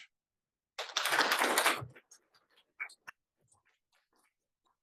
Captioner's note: applause